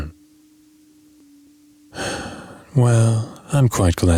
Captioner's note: sigh